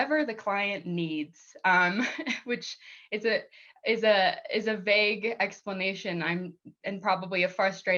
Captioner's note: laughter